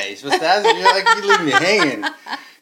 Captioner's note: laughing